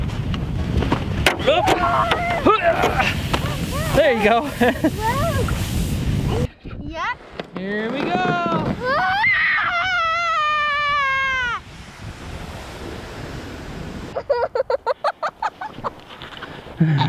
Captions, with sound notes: There you go. Here we go! (screaming) (giggling)